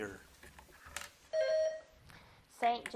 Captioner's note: bell dings